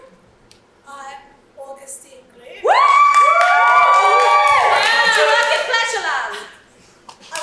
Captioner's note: audience cheers loudly, "do you work in Pleasureland?"